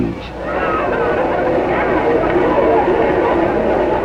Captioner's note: all chattering